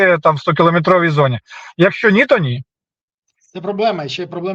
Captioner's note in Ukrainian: сопіння